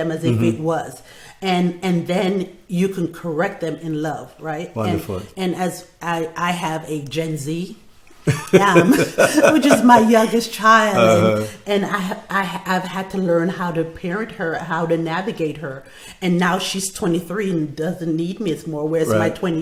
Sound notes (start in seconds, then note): 8.2 laughing